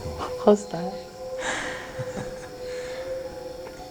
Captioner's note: chuckles quietly